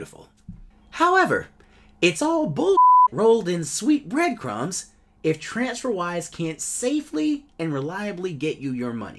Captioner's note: beep